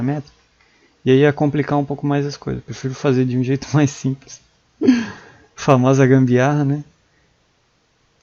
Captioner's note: laugh